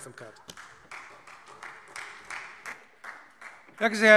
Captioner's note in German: Beifall Freie Demokraten